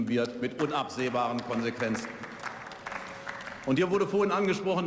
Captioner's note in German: Beifall